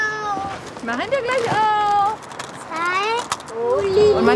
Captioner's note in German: säuselnd